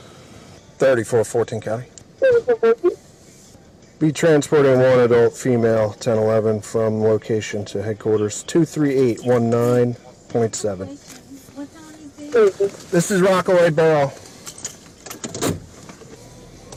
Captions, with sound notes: All this 34-14 County 34-14? Be transporting one adult female, 10-11, from location to headquarters 2-3-8-1-9 .7 What's all these things? (Radio chatter) This is Rockaway Borough